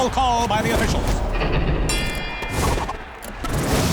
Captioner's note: dinging